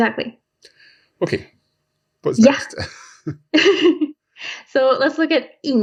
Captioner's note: laughs